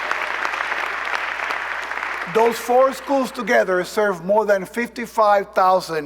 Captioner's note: cheers and applause